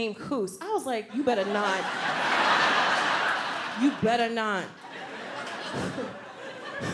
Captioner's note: audience laughs; laughs